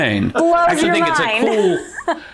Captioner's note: laughs